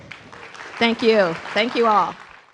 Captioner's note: audience clapping